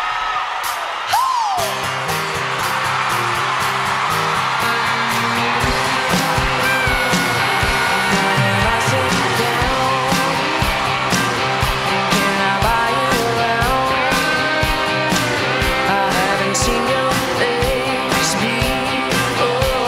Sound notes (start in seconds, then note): 1.7 crowd cheering; 1.7 upbeat music